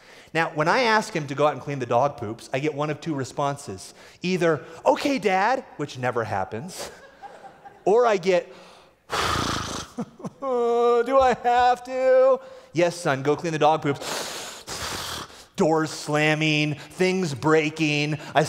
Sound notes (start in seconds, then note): 6.8 laughter; 9.0 large sigh